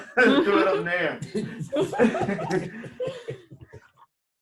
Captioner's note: all laughing